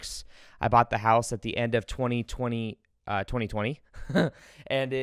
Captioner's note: chuckles